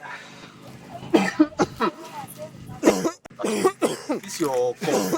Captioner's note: loud coughing